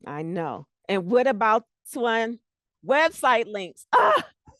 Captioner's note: breaking voice